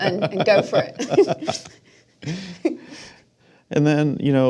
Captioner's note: laughing